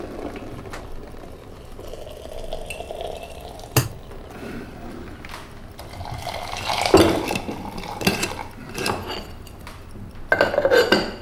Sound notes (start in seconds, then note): 3.8 soft thumping of object; 5.7 water trickling